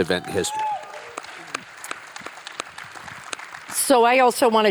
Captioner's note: attendees cheer and clap